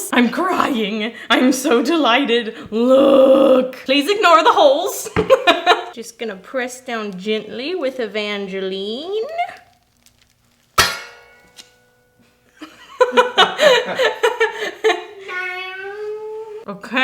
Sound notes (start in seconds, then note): 5.4 laughs; 10.7 metal clanks; 12.6 laughing